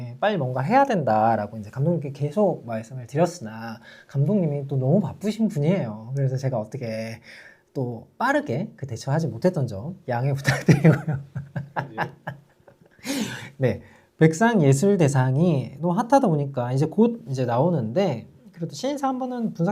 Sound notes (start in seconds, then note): 10.5 naughty laugh